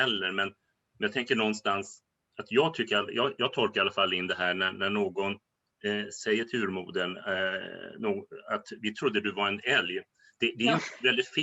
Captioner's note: Skratt